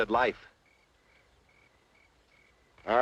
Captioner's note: crickets chirping